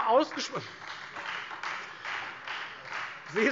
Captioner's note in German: Beifall Freie Demokraten